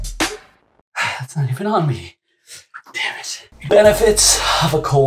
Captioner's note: exhales